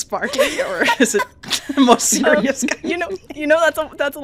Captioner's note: laughter